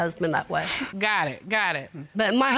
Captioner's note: chuckles